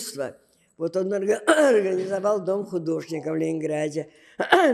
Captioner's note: clears throat